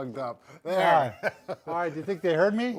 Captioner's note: chuckles